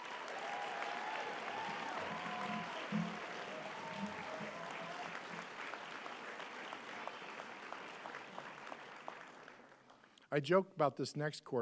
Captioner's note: applause